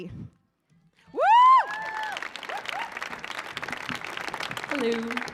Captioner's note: audience applauding